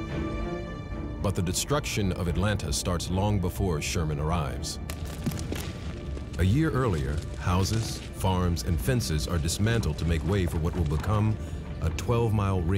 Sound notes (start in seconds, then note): 4.8 gun fire